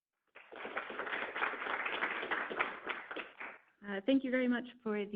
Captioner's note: people clapping